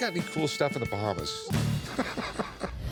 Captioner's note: laughs